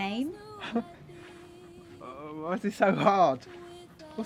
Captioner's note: laughs